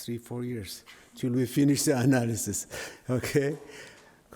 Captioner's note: laughs